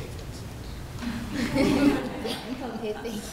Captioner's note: laughter